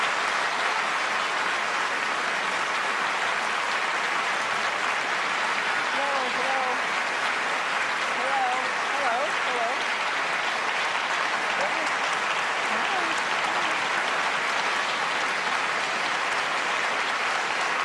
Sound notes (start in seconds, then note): 6.0 applause